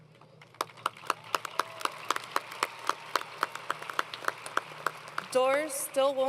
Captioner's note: applause